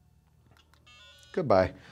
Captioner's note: phone rings